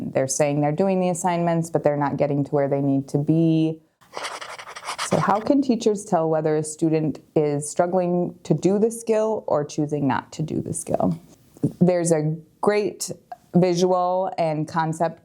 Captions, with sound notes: They're saying they're doing the assignments, but they're not getting to where they need to be. (pen writing on paper) So how can teachers tell whether a student is struggling to do the skill or choosing not to do the skill? There's a great visual and concept